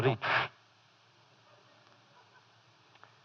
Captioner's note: laughter